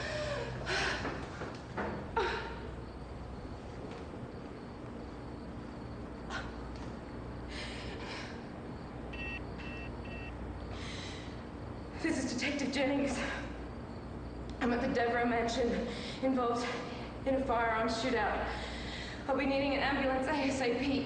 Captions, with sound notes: (Pauline gasps for air and moans softly) (cell phone beeps) This is Detective Jennings, I'm at the Devrou mansion, involved in a firearm shoot out. I'll be needing an ambulance asap.